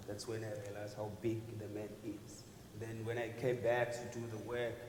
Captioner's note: none